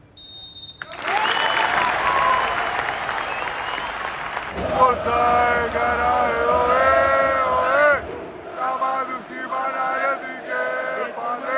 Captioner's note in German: Publikum skandiert